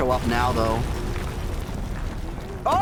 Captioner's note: rocks falling